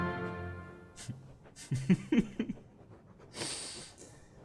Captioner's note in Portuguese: risos